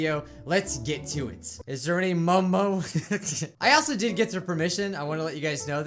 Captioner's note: chuckles